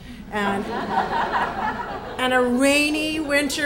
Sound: audience laughs

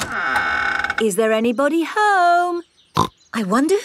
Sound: door creaks; snorts

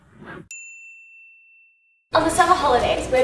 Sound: bell dings

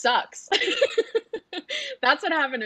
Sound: laughs

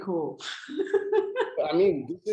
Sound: woman laughing

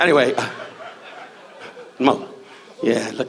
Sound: audience laughs

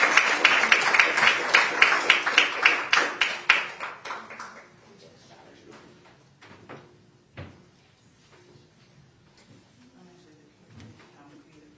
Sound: applause

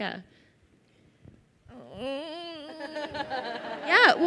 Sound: host vocalizing

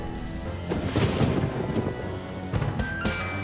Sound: lightning cracks; spooky music playing

